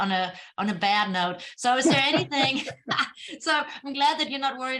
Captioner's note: laughter